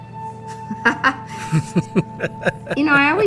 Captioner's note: laughs